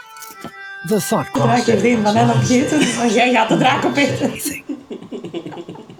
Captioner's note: in Dutch